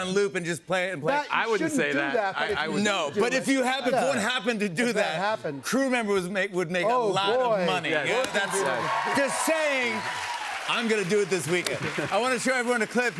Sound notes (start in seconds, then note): 8.0 cheers and applause